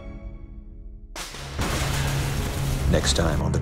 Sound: thunder strikes

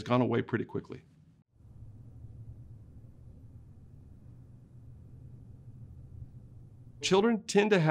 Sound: silence

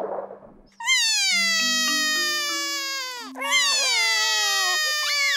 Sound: both crying

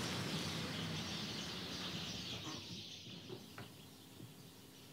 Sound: birds twitter

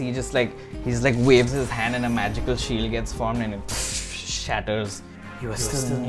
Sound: crack

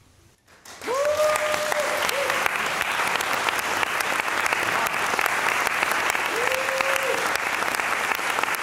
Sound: cheering, applause; applause

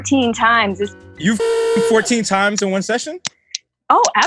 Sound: jarring sound

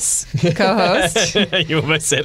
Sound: laughter

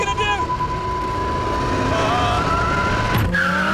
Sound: beeping; tires screeching

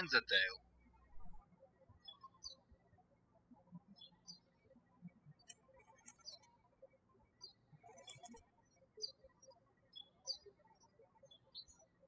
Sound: birds chirping

